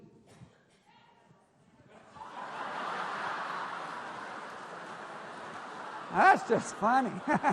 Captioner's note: laughter; laughing